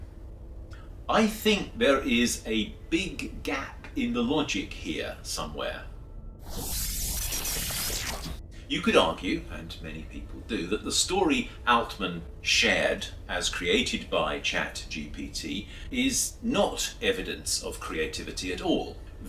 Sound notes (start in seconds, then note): 6.1 electronic sounds